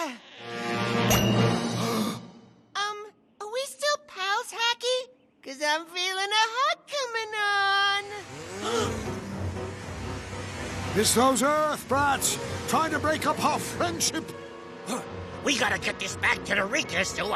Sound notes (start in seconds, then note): 1.8 gasps; 8.6 hum of snowmobiles